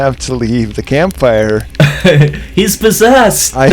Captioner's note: laughs